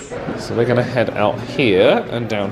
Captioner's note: guests chattering